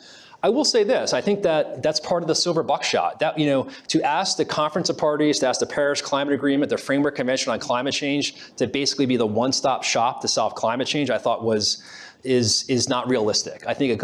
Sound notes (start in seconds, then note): none